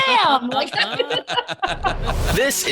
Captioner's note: everyone laughing